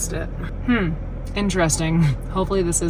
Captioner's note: hums